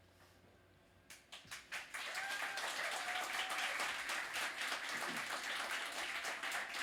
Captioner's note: applause